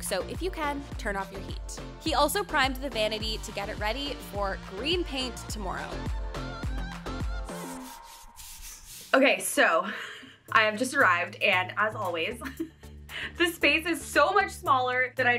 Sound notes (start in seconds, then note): 5.7 upbeat music continues; 7.5 brushstrokes swish; 12.4 chuckles